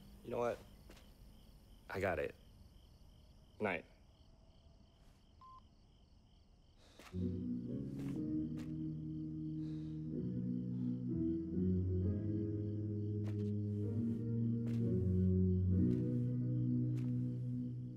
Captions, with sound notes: You know what? I got it. Goodnight. (phone beeps) (soft music)